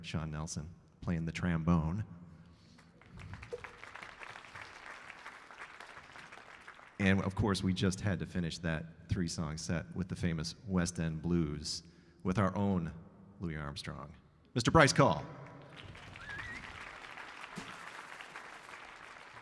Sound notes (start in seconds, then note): 2.8 audience applauding; 15.5 audience applauding